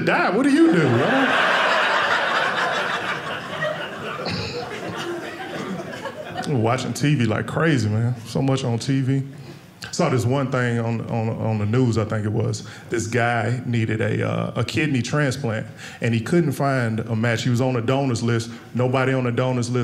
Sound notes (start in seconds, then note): 0.5 audience laughing